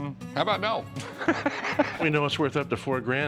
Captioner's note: laughs